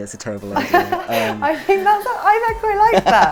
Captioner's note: laughs